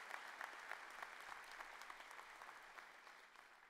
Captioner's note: cheers and applause